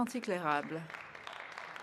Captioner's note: speaking French